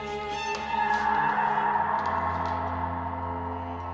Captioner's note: Ada screaming